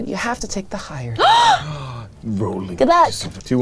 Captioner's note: gasps